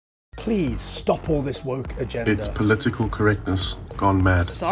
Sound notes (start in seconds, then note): 0.4 different voices speaking